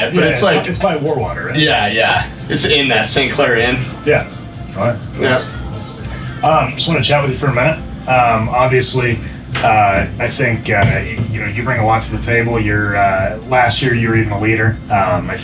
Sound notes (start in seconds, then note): 4.6 chatter